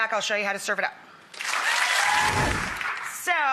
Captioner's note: audience applause